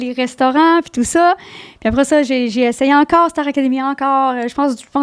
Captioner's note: in french